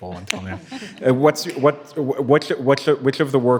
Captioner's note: panelists and attendees laughing